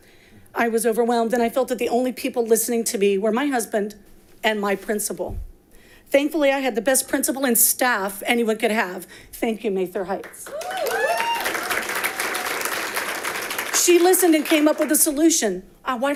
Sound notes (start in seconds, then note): 10.3 audience applauding